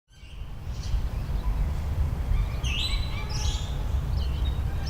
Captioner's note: birds tweet